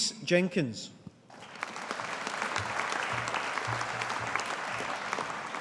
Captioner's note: audience applauding